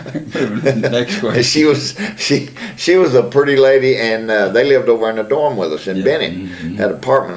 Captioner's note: laughter